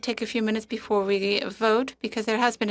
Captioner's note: speaking French